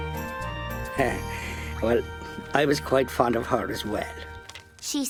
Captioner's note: chuckling